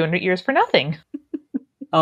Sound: laughs

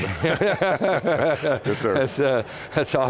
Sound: both laugh

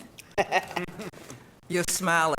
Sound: laughing

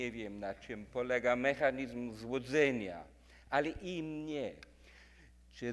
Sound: speaking in foreign language

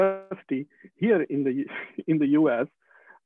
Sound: sighing

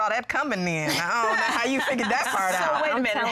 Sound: laughing

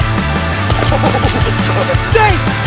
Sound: action music; laughs

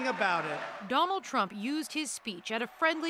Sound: cheers and Applause

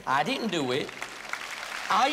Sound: applause

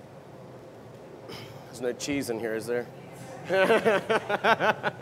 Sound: laugher

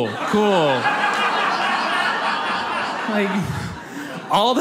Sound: audience laughs

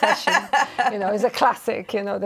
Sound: laughter

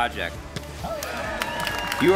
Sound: bat thumps; crowd cheering

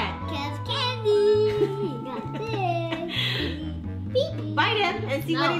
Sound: mom giggling

